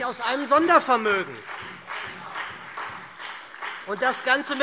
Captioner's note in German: Beifall SPD und Freie Demokraten